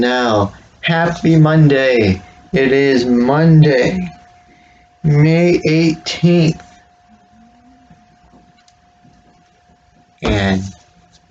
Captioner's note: clump of phone hitting the desk